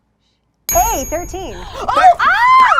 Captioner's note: bell rings; overlapping chattering